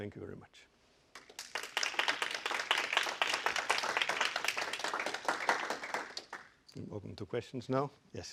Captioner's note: applause